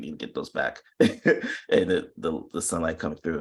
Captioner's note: chuckles